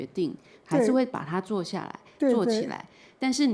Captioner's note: Mandarin